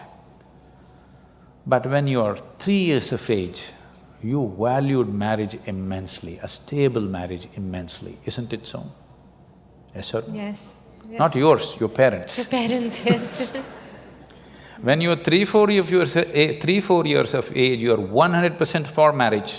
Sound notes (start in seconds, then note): 12.8 laughter